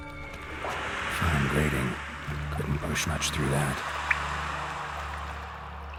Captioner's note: faint hisses echoing